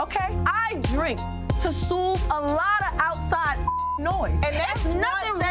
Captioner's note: beep